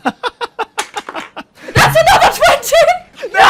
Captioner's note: dice clacks; loud cheers and screams from everyone, a.k.a. RIP your headphones; screams